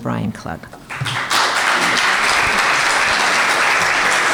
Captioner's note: applause